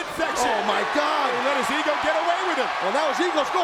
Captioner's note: audience cheers